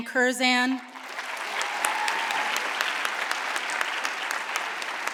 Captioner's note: audience applauds